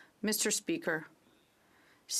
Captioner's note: speaking French